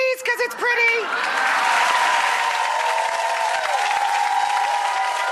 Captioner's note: audience cheering